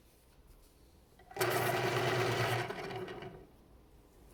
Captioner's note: sharpener sound